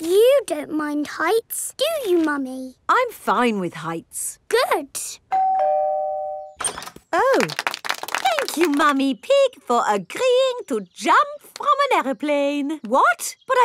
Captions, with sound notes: But you don't mind heights, do you, Mummy? -I'm fine with heights. -Good. (DOORBELL RINGING) -Oh. -(CROWD APPLAUDING) Thank you, Mummy Pig, for agreeing to jump from an aeroplane.